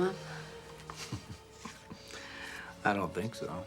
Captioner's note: Mark chuckles